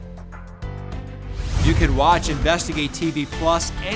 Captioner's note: scene swooshing